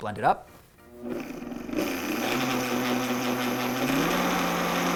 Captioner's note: blender whirring